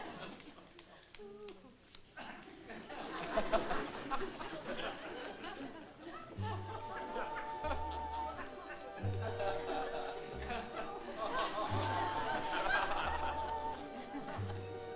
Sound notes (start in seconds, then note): 2.9 laughter; 6.3 romantic music; 12.2 laughter